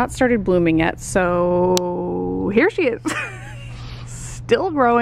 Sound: laughs

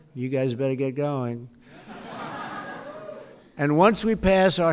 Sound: laughter

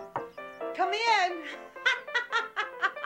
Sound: knock on door

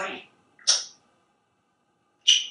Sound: smooch; funny smooch

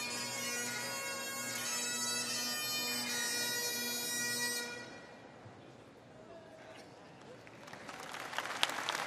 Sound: applause

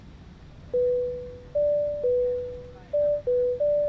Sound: beeps

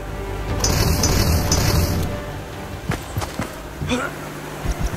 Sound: robots clanking

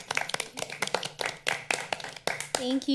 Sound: all applauding

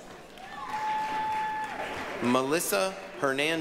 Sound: applause, cheering

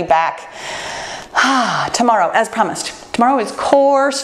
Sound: sighs

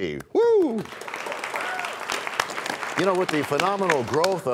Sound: applause

